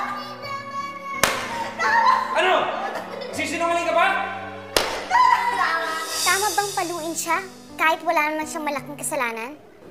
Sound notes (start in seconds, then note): 1.2 belt slaps; 1.4 Nina cries; 4.7 belt slapping